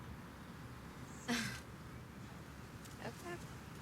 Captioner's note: Cassie laughs